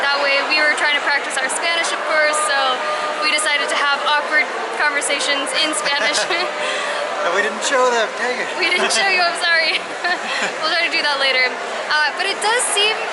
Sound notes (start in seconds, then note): 5.6 laughter